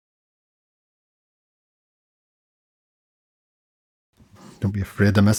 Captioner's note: silence